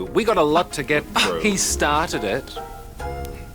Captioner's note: scoffs